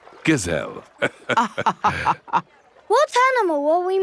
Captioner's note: both laughing